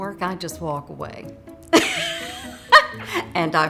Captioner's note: loudly laughs